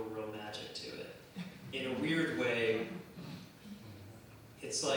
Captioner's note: laughter